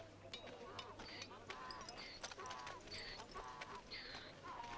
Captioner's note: donkey braying